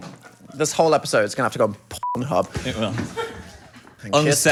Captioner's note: beep